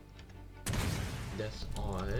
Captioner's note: incindienary grenade noises idk how to spell incidenary